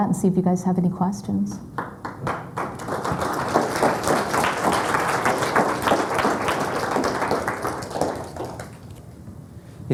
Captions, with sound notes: and see if you guys have any questions. (applause)